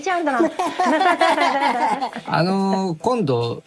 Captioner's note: laughs